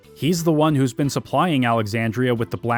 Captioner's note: none